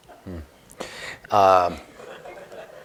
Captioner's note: laughter